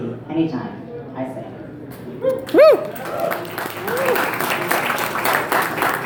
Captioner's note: applause and 'woots'